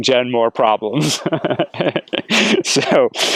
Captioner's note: laughter